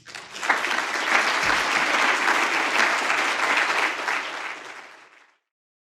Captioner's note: audience applauding